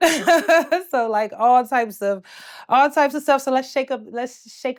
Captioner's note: laughs